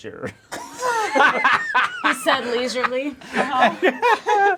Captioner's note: laughing